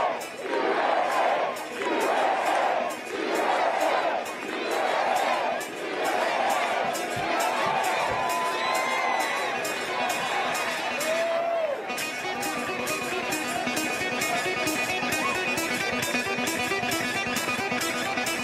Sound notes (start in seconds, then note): 0.0 cheers and applause; 1.4 crowd chanting "usa"